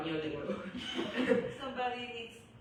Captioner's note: laughter